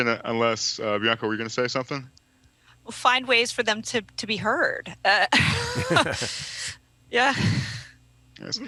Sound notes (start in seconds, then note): 5.3 laughs